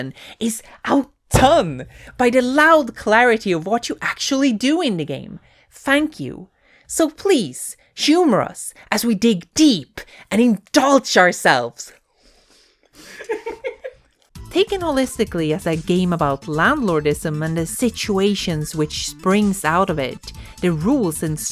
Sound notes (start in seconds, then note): 13.0 laughing behind camera